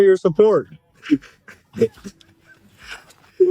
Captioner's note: laughter